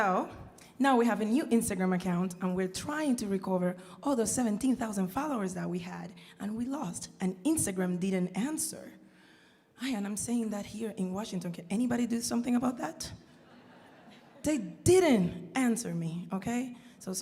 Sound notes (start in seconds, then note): 13.4 audience laughing